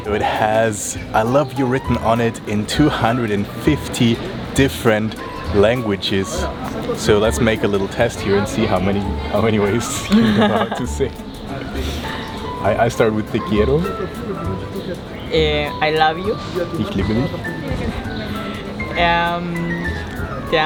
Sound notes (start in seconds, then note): 14.3 speaks Spanish; 17.0 speaks German